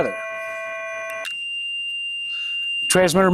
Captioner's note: transmitter produces a high-pitched tone